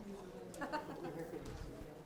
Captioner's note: woman laughs